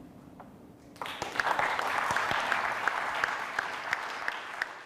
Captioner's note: audience applauds